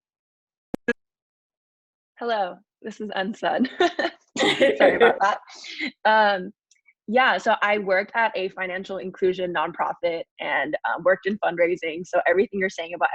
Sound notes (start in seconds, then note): 4.4 laughs